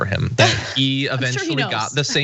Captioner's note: laugh